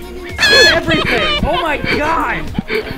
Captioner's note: noot